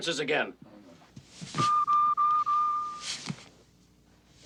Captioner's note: beeping